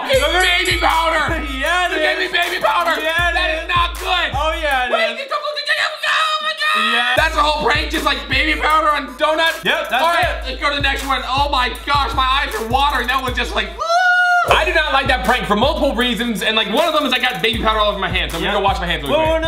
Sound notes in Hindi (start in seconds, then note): 5.8 चिल्लाना; 13.6 कराहना